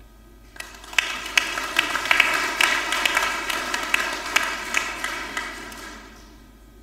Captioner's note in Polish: oklaski